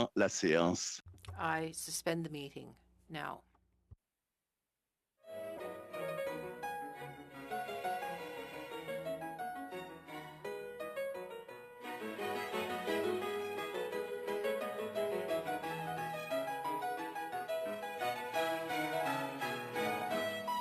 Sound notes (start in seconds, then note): 3.6 speaking French